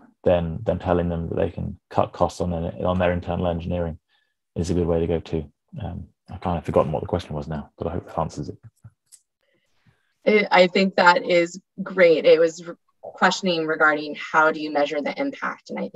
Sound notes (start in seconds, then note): none